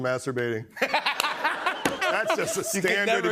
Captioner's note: laughter